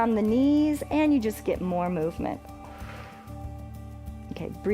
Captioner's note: exhales